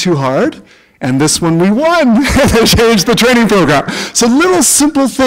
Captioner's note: chuckle